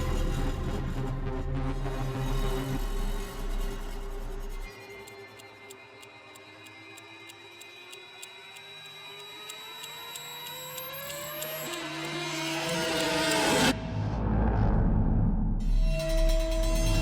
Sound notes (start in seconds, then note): 0.0 dramatic music; 6.2 clock ticking; 15.6 dramatic music